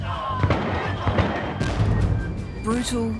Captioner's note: guns firing